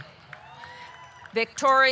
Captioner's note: audience cheering